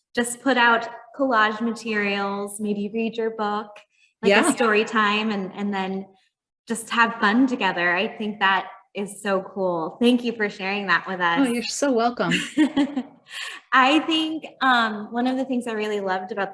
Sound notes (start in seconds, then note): 12.3 chuckling